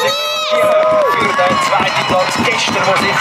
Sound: cheering

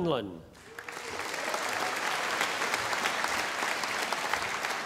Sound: audience applauding

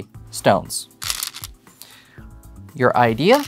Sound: stones rattling

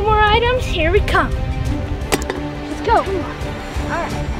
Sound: clanking

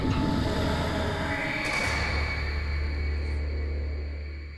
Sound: distant screams

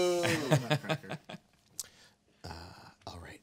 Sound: man laughing

